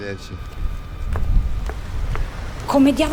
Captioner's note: heels clanking